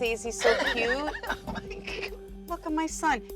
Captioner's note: laughs